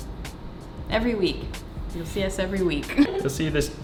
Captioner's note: laughing